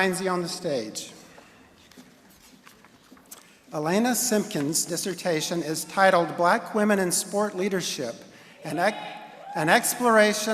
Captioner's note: cheering